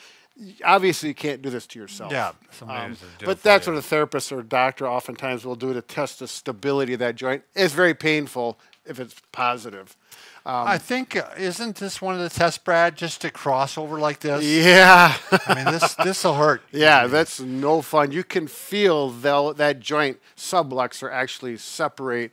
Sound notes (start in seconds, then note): 14.5 laughs